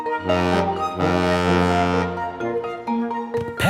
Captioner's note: boat horn honking